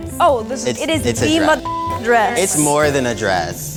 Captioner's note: beep; beep